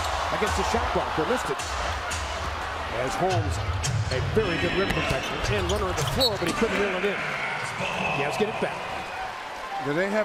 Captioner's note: crowd noise